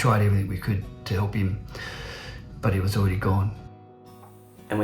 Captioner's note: inhales deeply